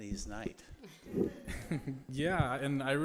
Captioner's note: laughter